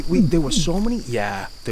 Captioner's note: imitating gator